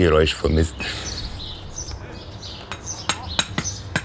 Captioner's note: birds chirping, hammering